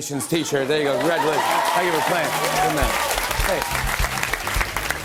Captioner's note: cheers and applause